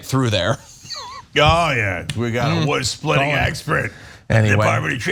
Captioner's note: laugh